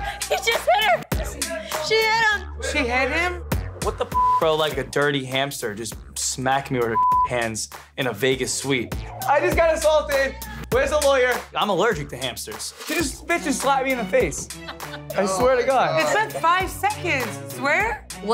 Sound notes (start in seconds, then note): 4.0 beep; 7.2 beep